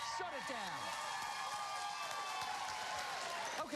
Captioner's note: cheers and applause